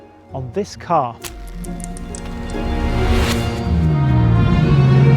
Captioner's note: screen clacking; dramatic music; engine revving